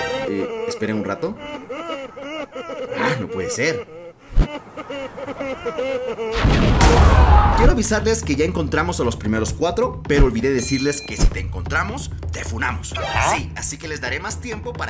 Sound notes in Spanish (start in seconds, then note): 0.0 Risas de Aldeanos; 6.4 Gritos de Aldeanos